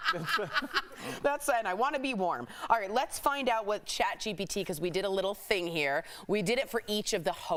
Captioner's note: laughter